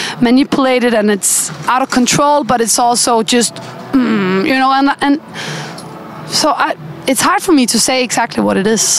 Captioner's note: hmmm